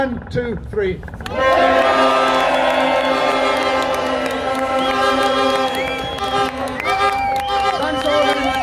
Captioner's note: shouts